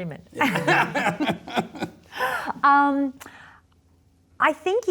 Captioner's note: both laughing